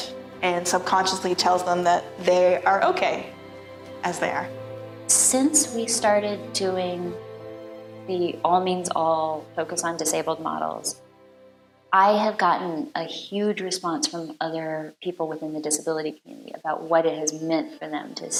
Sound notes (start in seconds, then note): none